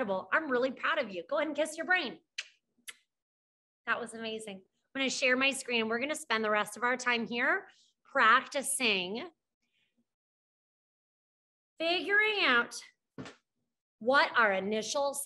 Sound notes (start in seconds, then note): 2.5 blows kiss